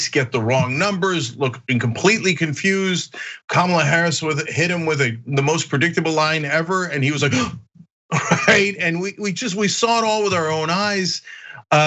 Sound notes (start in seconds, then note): 8.1 laugh